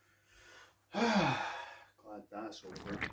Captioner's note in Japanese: ため息